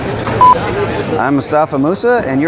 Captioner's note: beeping